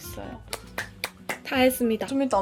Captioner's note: sound of successful applause